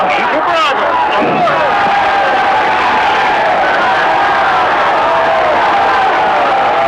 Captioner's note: audience applauding; audience cheering